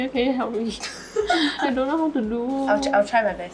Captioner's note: laughs